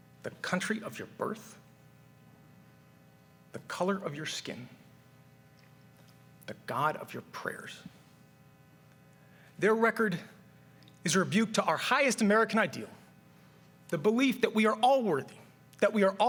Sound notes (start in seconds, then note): none